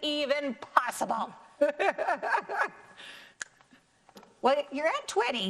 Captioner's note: laughs